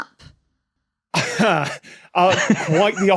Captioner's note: blurts hesitant chuckle; wheezes